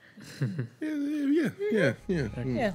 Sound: nervous chuckling

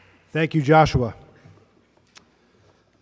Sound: none

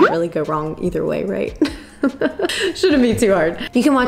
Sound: giggling

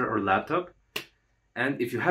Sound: slap

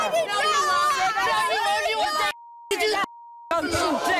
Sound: women yelling

